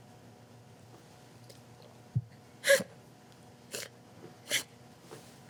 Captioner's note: Annabelle crying